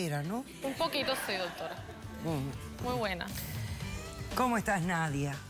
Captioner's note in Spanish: risas